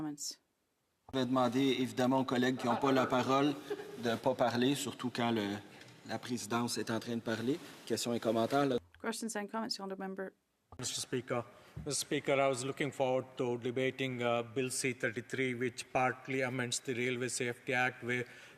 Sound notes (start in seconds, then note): 6.2 speaking French